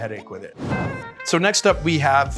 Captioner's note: smooth jazz music; graphic whooshing